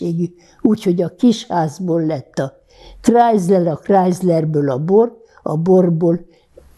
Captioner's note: counting